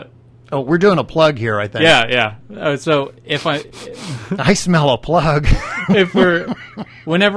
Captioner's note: makes sniffing noises